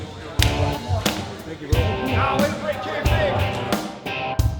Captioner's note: clapping; indistinct chatter; background music